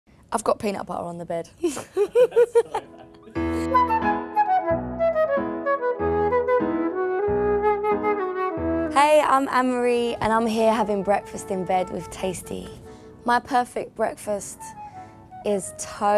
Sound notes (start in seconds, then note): 1.7 laughing; 3.3 upbeat music